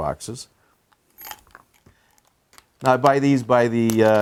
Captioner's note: bits clanking